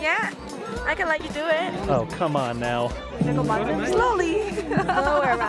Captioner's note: she laughs